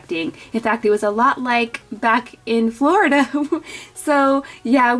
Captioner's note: giggles